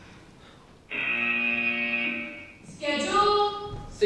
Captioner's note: buzzer